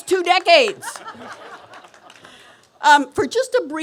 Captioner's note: laughter